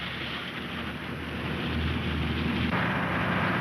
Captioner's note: engine rumbling